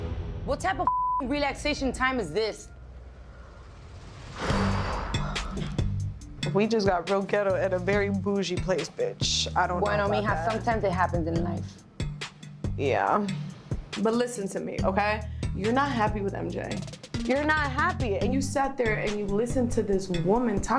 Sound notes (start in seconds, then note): 0.8 beep; 4.4 sighing; 4.6 lively tense music